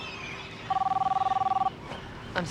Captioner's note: phone ringing